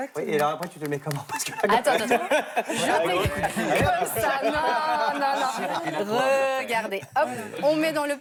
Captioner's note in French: rires